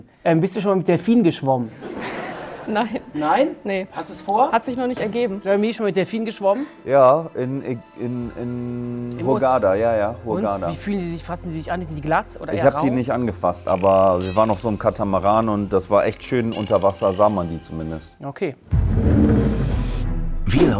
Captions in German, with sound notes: Bist du schon mit Delfinen geschwommen? (Lachen) Nein. Nein? - Nee. Hast du's vor? - Hat sich noch nicht ergeben. Jeremy, schon mit Delfinen geschwommen? - Ja. In Hurghada, jaja. Wie fühlen die sich an? Sind die glatt? Ich hab die nicht angefasst. Aber wir waren auf so 'nem Katamaran. Das war echt schön. Da sah man die zumindest. - Okay. (Spannungsvolle Musik)